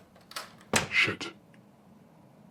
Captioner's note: door clicks